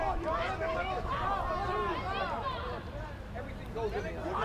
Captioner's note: supporters chatter